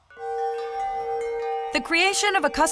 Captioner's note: chimes